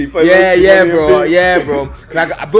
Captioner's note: laughs